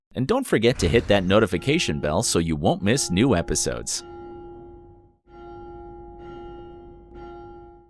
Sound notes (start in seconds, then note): 3.8 bell tolls